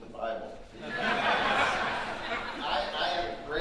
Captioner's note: audience laughing